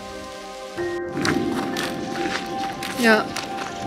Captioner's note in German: Donner